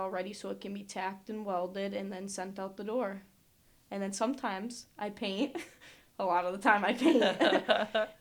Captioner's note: they both laugh